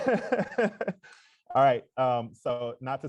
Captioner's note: laughs